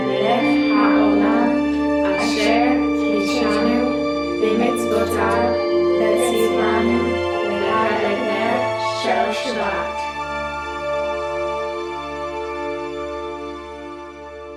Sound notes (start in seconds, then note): 0.1 in Hebrew